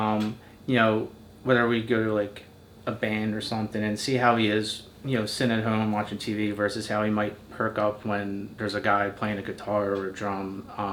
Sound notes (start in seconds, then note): none